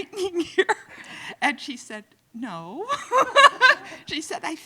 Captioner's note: loudly laughing